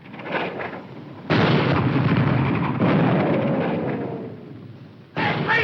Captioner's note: bombs exploding